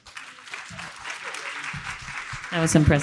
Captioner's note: audience clapping